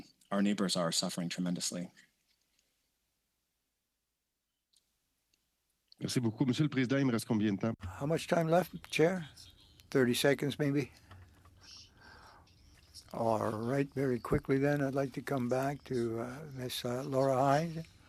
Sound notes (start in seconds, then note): 13.3 speaking French